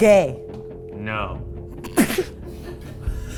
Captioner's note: laughing; tense music